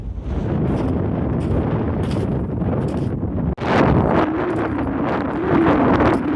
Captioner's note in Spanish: Mucho viento